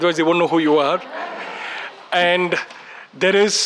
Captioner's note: laughs